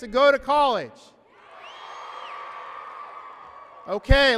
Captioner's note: applause and cheering